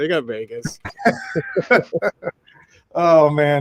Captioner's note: all laughing